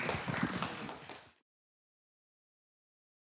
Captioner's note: applause